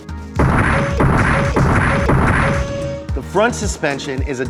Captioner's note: explosives firing